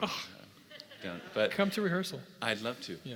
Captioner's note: laugh